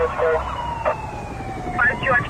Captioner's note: police radio chatter